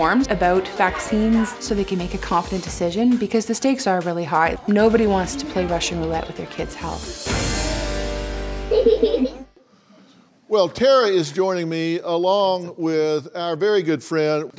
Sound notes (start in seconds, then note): 8.6 baby laughs